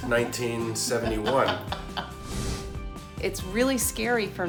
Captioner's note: laughs